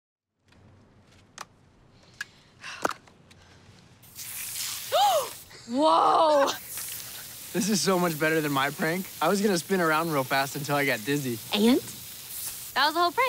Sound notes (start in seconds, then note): 4.1 gasps; 5.8 chuckles